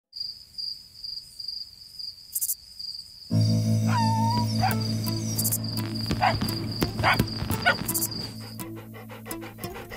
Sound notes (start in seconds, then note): 0.2 insects chirping; 3.8 puppy barking